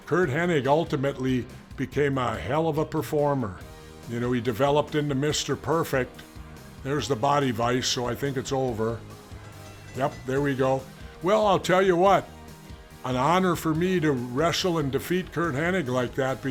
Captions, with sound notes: Curt Hennig ultimately became a hell of a performer. You know, he developed into Mr. Perfect. There's the body vice, so I think it's over. (bell clanging) Yep, there we go. Well, I'll tell you what, an honor for me to wrestle and defeat Curt Hennig like that